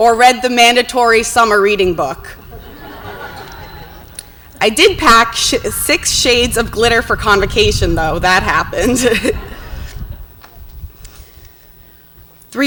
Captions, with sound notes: or read the mandatory summer reading book. (audience laughs) I did pack six shades of glitter for convocation, though, that happened. (laughs)